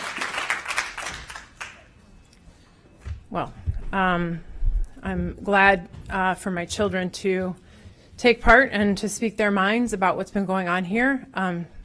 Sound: applause

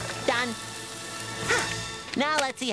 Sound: sighing

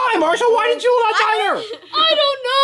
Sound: laughs

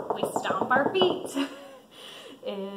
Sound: stomping

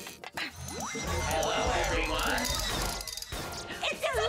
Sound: robot

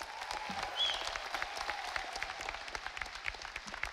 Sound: audience applauding

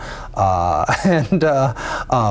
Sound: laughs

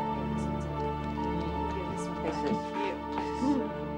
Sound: people chattering

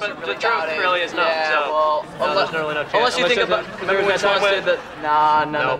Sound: overlapping chatter

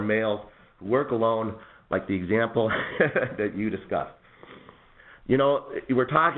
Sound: chuckles

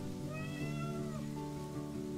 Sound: meows

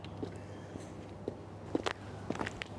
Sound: footsteps approaching

